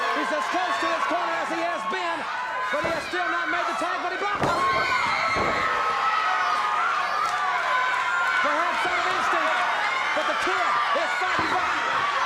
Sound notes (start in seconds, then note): 5.3 audience cheers